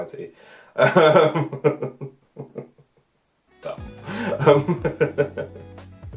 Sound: laughter

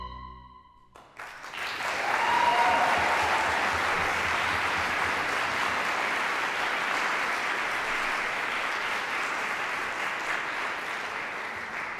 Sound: applause

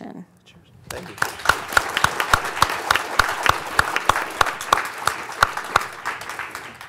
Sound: audience applauds

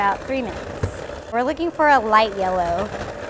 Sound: mixer whirs

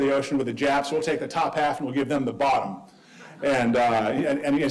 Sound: audience laughing

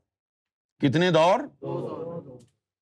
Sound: audience repeats

